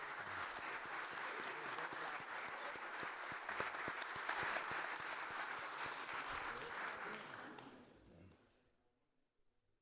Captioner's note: applause